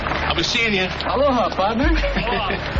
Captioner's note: chuckling